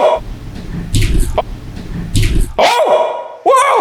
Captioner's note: ghostly whispering